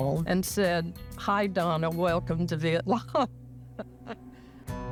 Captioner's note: laughs; gentle music